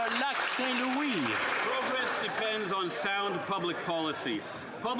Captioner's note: some Applause